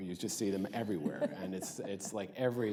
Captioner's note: laughter